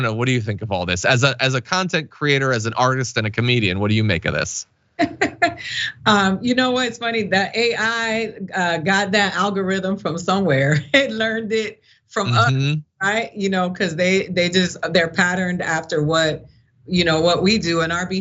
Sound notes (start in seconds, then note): 5.0 laugh; 12.2 laugh